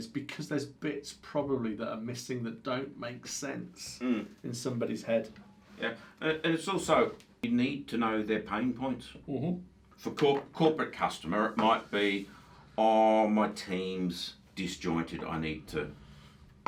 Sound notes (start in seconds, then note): none